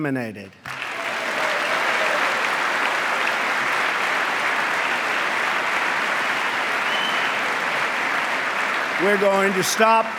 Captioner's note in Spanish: aplauso